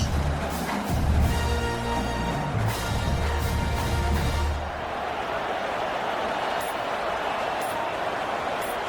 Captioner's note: crowd Noises